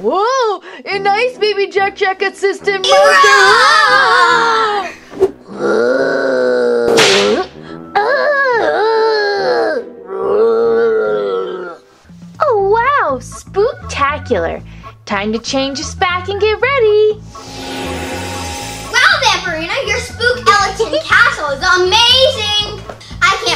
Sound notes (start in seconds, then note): 2.9 roaring; 5.5 Gekko growling; 6.9 whip cracking; 7.9 Gekko whimpering; 10.1 zombie growling; 17.2 magical music